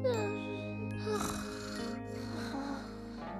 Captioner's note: snoring